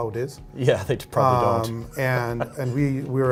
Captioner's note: laughs